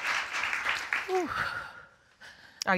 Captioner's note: panting heavily